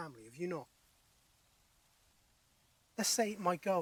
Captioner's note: birds chirping